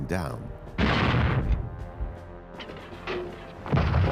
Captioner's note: cannon firing